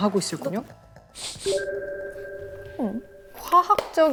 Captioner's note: sniff sniff sniff